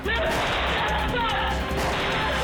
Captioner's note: gun shot